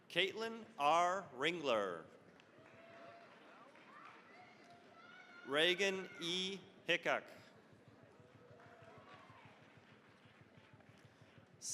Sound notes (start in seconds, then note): 2.4 cheering, applause; 7.8 applause